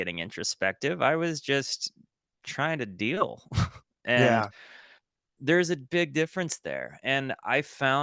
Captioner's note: chuckle